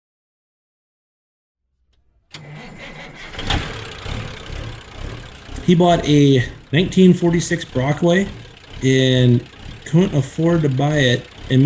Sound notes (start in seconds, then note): 2.9 truck engine starting